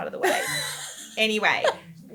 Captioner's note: laughing